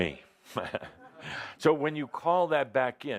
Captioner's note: chuckling